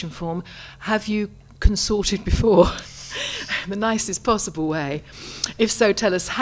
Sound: laughs

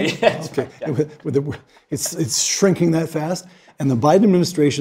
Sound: laugh

